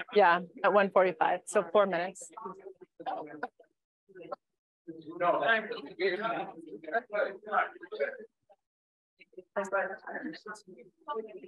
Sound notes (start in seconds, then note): 2.7 chatter